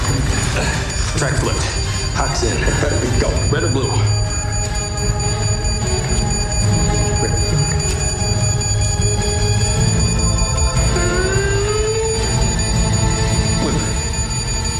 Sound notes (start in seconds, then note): 0.2 dramatic music; 5.6 dramatic music; 5.6 ticking sound; 14.6 whooshing sound